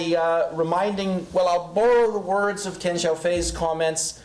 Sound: foreign language

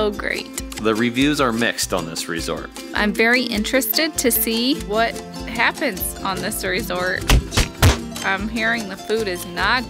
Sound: banging

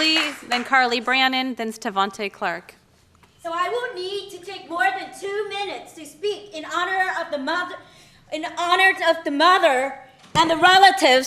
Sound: applause

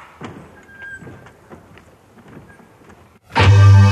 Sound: door squeaks; intense music

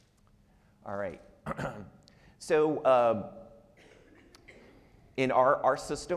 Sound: clears throat

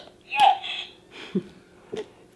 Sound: electronic Voice

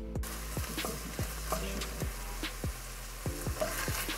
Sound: hands clapping; food sizzling

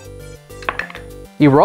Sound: dice clattering

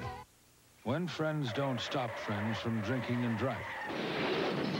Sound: over extended screeching of car tires; car crash heard as glasses shatter

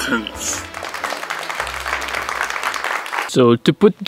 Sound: clapping

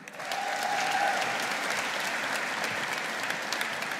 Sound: audience applauding

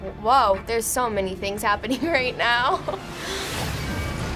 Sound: chuckles

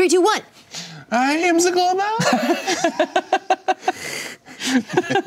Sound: laughing

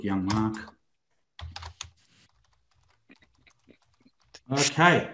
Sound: computer keyboard keys tapping

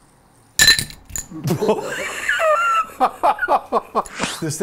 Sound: glass ringing

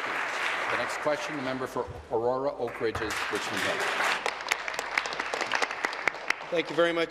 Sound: applause

